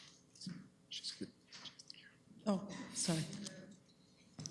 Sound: whispering

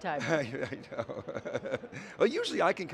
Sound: laughing

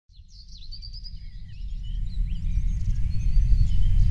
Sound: birds chirping

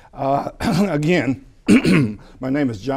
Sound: clearing the voice

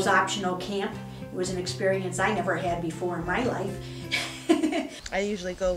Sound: laughs

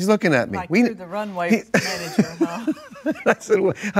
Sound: laughs

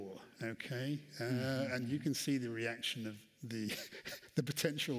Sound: chuckles

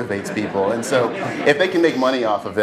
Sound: laugh

